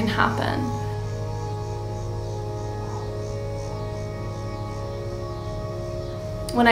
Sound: cicada chirping

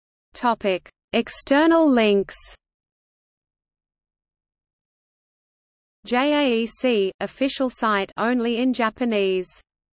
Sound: only in Japanese

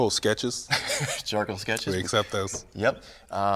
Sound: chuckles

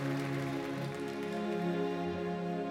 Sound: cheers and applause

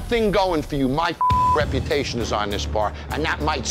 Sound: beep

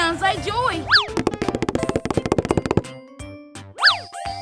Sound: fast tapping

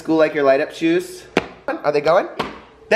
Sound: stomps

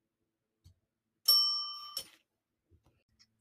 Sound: bell dings

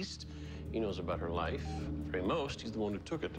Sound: cell phone beeps

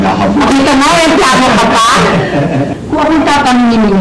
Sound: laughs

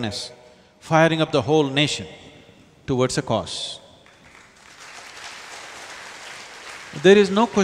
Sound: applause

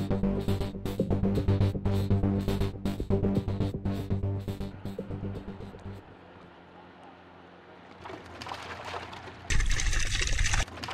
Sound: NATURAL SOUND Fish Going into lake

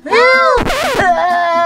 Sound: person screaming; record scratching

